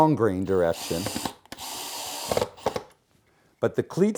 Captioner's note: screw gun